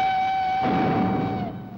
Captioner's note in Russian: звук выстрела